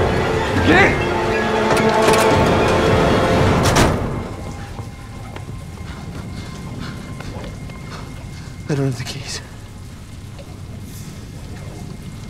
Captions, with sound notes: "Get in!!" (suspense music)(heavy breathing) "I dont have the keys.."